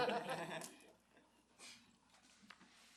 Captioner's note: laughs